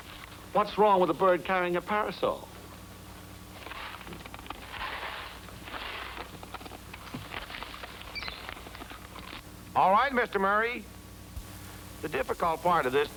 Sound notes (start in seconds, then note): 8.1 bird chirping